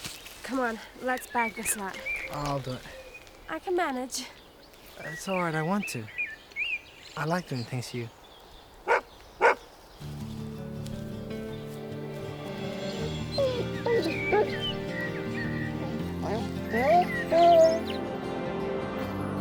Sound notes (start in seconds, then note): 8.8 dog barking